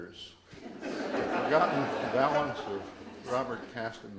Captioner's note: audience laughs